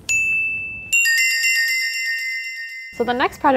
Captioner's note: bells tinkling